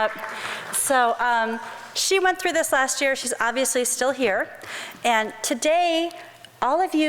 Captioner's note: crowd applause